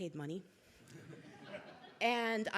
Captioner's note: crowd laughing